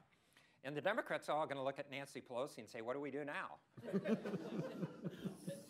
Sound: laughter

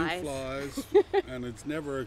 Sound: chuckles

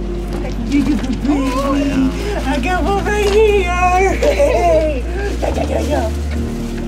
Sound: laughter

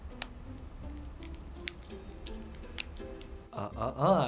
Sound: wrapper crinkles

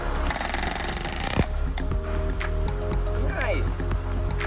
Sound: Cleco machine running

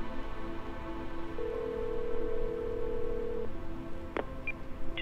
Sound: phone dial tone

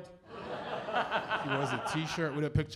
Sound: laughter

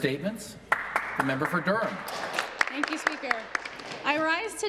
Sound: applause

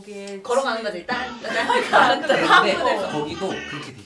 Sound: laugh

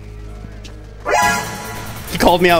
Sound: suspenseful honking

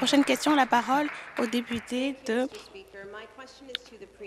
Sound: applause

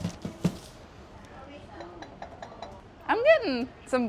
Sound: taps

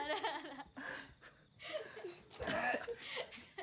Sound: laughter

